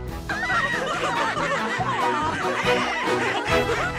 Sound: laughter

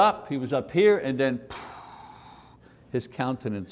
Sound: breath

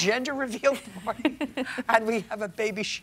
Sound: laughing

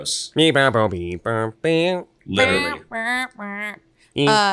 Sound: group beatboxes

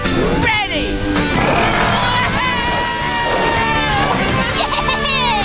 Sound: screaming happily

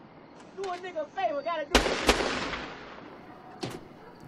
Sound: two gun shots

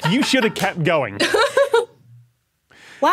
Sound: laughs

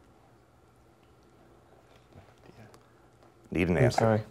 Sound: whispering

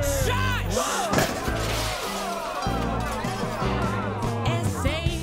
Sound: waiter trips, shouts, glass smashes

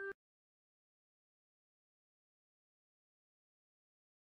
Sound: silence

